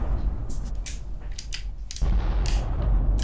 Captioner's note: gun clicking; distant bombs rumbling